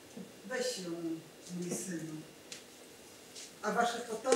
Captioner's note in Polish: Po polsku